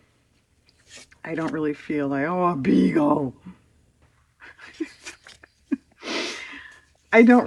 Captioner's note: laughs